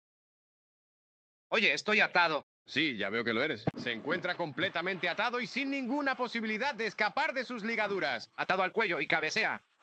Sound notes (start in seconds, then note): 4.9 rattling sound